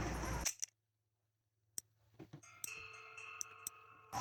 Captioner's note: challenges page noises; screepy music; music and speeding horse